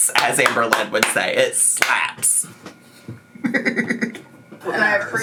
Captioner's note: laughs